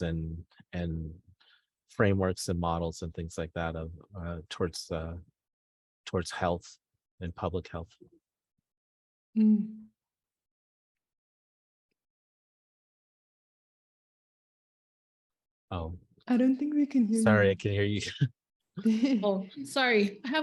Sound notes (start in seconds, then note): 18.0 chuckles; 18.8 laughs